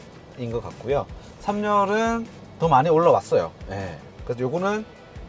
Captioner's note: road vibration